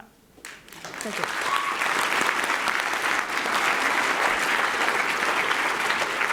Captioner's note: applause